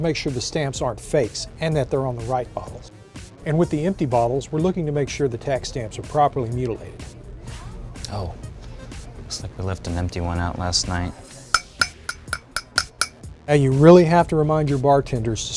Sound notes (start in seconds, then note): 11.5 clink clink clink